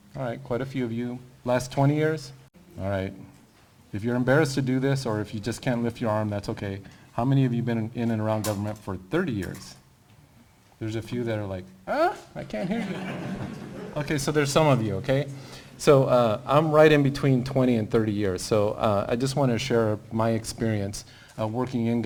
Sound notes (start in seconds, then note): 12.5 laughter